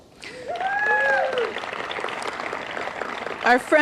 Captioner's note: applause